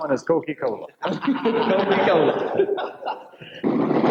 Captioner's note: laughing